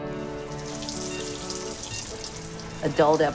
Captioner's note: water drips